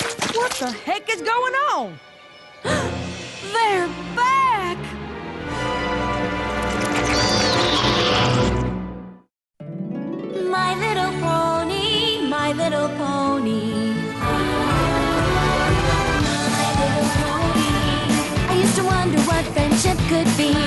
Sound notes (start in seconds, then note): 2.6 gasp; 4.8 crescendo; 6.9 squawks